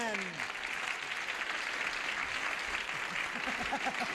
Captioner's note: audience applauding